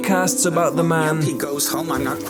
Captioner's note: podcast voice